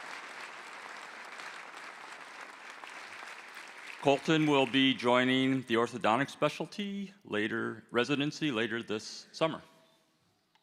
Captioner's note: applause